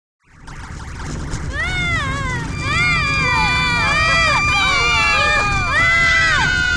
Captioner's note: princesses screaming